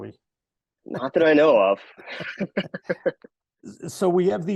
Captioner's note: all laughing